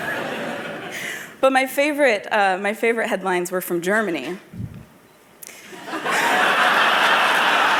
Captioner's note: laughter